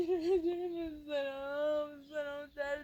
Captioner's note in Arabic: ضحك